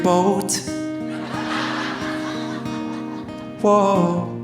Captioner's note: audience laughing